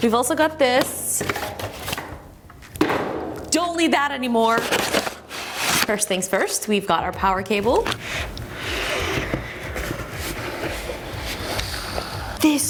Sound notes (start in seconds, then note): 2.8 box thuds; 4.5 package contents clatter; 7.8 cardboard rubbing